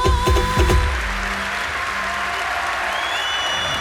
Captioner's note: cheering, applause